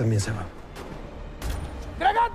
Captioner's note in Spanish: Disparos